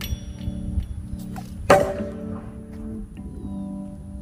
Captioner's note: loud clang